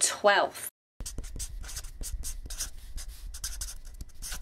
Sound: pen scratching

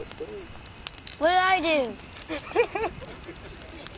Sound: laughing

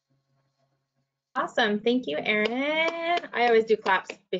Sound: applauds

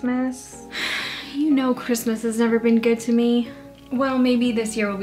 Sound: Julie sighs

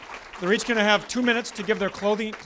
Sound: audience applause

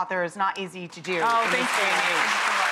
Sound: audience applauds

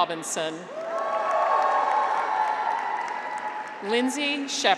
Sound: graduates cheer

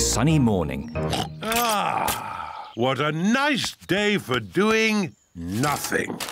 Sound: oinks

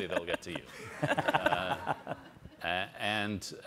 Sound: all laugh

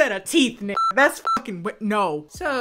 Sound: beep

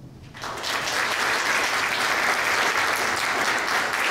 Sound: applause

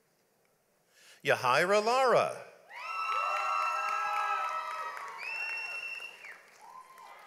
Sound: audience applauds

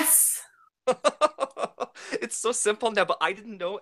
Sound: laughing

